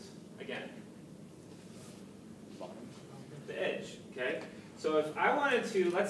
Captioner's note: background comments